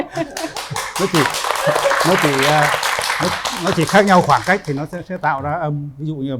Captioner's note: applause